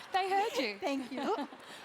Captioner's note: laugh